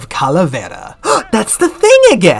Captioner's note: gasp